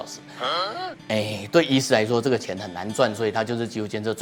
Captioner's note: crying and crying